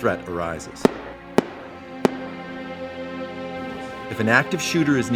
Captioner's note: gunshots